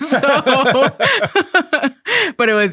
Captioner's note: both laughing